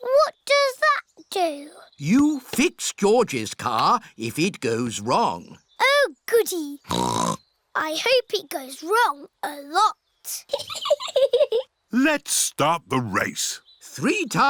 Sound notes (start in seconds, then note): 6.8 snorts; 10.4 chuckles